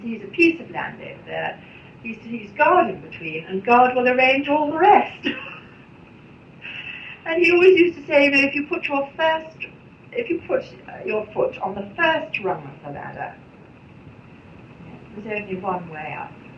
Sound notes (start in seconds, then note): 5.2 laughs